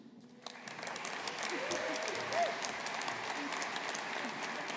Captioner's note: audience applauding